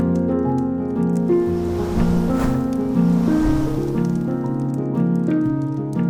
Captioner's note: podcast piano theme & fire crackling; air whooshing x3; podcast piano theme & fire crackling